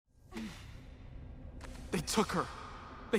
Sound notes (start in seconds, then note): 0.3 grunt in swirly reverb